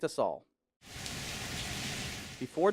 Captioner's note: rain sound